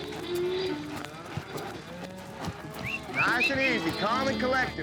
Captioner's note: cattle mooing